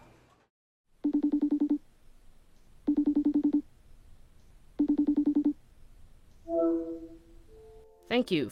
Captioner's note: FaceTime dialling sound